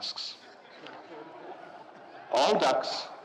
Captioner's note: audience laughing